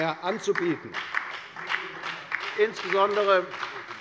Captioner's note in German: Beifall bei der FDP und bei Abgeordneten der SPD